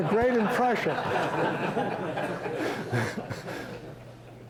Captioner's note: chuckling